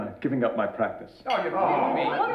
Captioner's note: everyone yelling